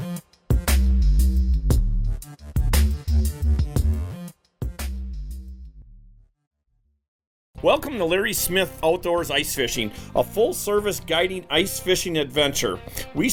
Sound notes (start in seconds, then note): 7.7 voiceover